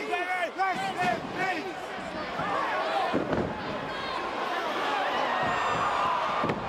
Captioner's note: crowd chattering